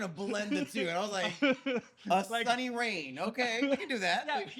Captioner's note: laughing